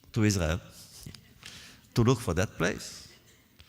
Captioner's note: laughs